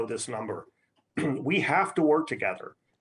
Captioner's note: throat clearing